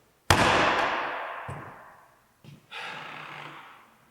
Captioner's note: ball taps; Jacob sighs